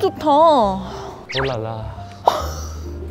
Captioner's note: imitating a French accent